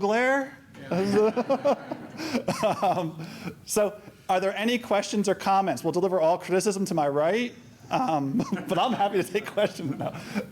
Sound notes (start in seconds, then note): 0.9 laughter; 8.4 chuckles